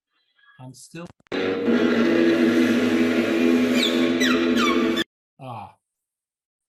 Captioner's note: electronic buzz interrupts speaker